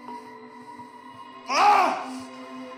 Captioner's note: screams